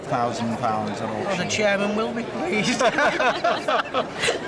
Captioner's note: laughter